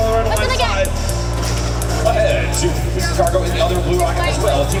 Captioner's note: robotic ticking